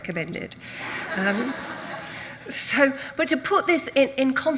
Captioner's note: audience laughs